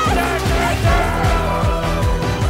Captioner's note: Schreie; Dynamische Musik